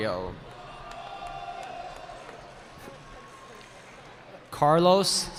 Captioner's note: cheering